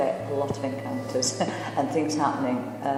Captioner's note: laughs